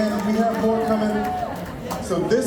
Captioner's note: applause